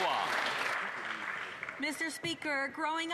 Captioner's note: cheers & Applause